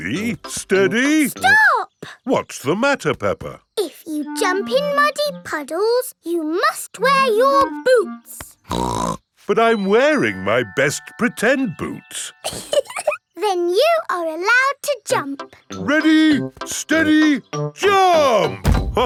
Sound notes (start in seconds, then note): 8.6 snorts; 12.4 laughing